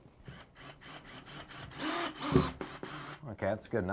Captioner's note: drilling